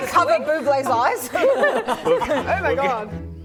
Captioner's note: laughing